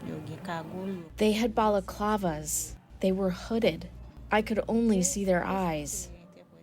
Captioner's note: through translator